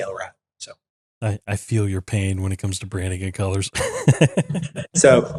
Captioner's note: laugh